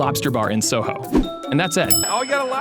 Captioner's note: bell dings